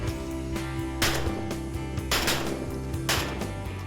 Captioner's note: gunfire